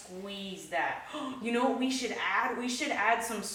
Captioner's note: gasps